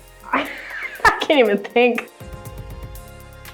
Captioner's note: laughs